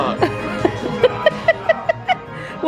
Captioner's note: giggling